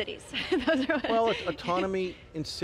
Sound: laughing

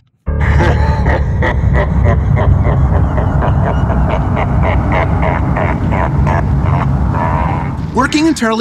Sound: evil satanic laugh

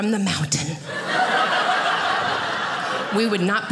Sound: audience laughing

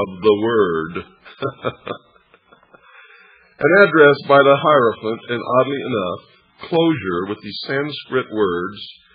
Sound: laughs

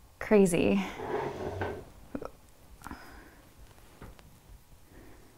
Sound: object whirring

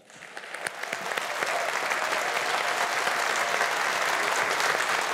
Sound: audience applauding

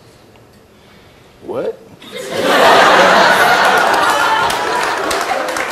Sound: audience laughs and cheers

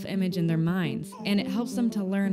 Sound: baby cooing

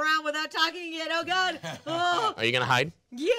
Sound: groaning

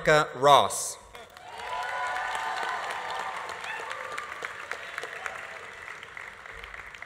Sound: audience applauding; audience cheering

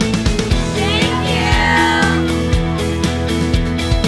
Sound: crowd; upbeat music

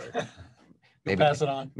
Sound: laughs

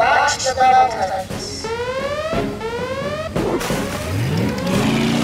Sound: alarm blaring

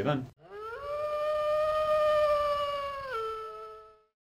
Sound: distant wolf howl

